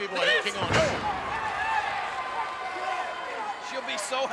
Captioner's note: crowd yelling